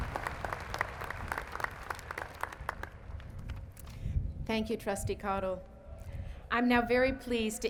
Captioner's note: applause